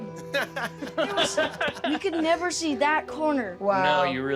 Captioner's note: laughing